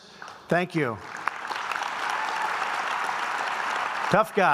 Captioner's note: applause